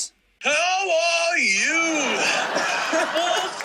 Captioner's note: laughter